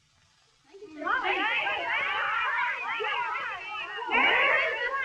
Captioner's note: chattering